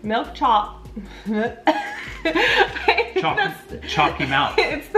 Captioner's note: coughing quietly; laughing quietly